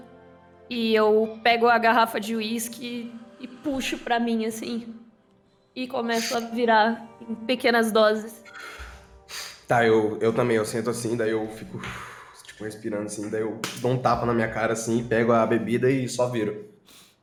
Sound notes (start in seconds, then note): 11.7 breathing sounds; 13.6 slap